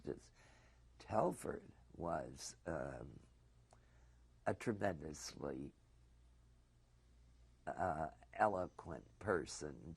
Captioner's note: pauses for 3 seconds